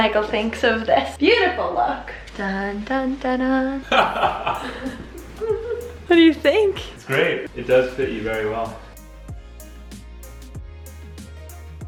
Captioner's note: laughs